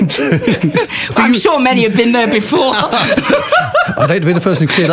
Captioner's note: laughter